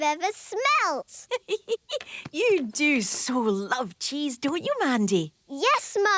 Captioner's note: giggling